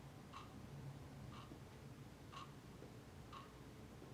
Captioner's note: clock ticking